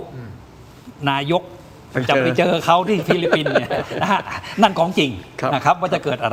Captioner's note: laughter